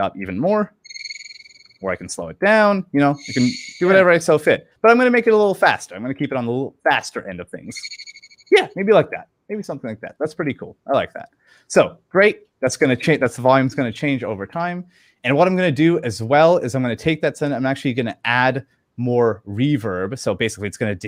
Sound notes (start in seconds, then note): 0.8 high pitch squeak echoes; 3.1 high pitch squeak echoes more slowly